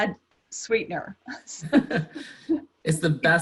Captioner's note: laughter